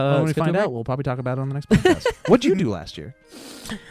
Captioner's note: laughing